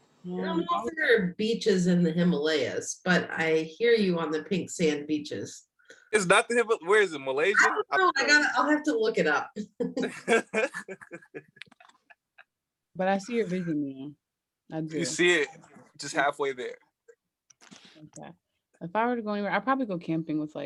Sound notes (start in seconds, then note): 10.0 laughs